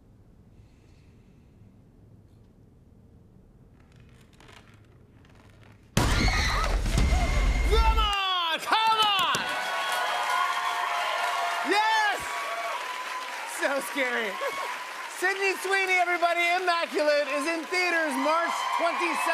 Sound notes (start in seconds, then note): 3.6 wood creaking; 6.0 screaming; 10.0 cheers and applause